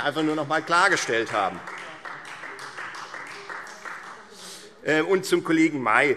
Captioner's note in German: Beifall Freie Demokraten